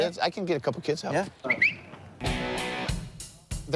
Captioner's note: whistling